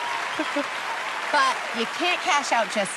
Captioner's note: cheers and applause